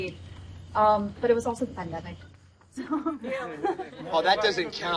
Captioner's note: chuckling